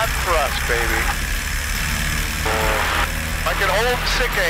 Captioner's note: engine rattles